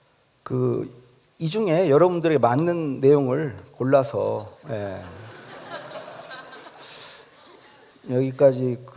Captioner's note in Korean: 웃음